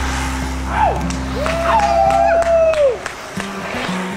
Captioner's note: cheers and applause